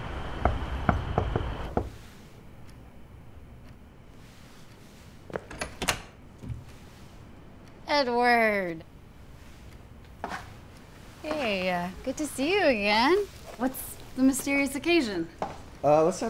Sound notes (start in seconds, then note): 0.8 knocking; 3.6 clock ticking